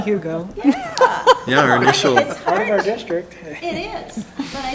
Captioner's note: chattering